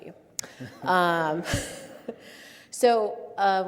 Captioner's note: all laugh